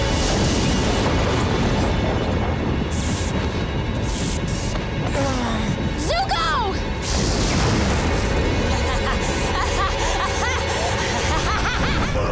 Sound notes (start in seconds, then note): 5.0 groaning; 8.6 laughing